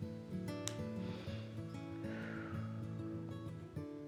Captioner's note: inhales and exhales